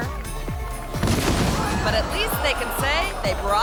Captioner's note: stage thuds; people screaming